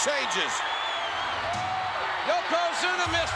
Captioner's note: spectators cheering